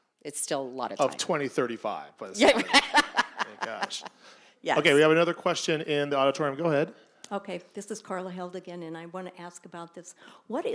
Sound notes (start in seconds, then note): 2.5 laughing